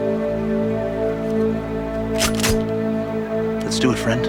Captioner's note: shotgun cocks